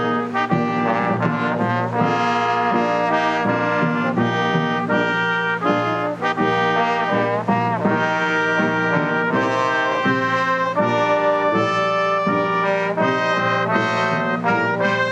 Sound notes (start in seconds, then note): none